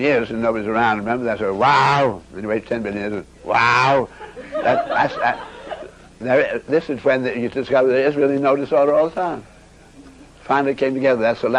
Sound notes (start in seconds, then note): 3.9 everybody laughs